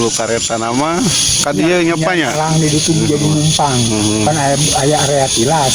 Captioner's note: locomotive